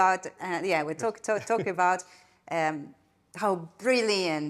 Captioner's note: chuckling